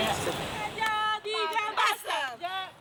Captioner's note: chanting in Spanish